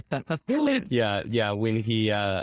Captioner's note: laughs